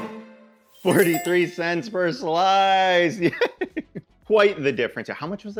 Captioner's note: lively music; laughs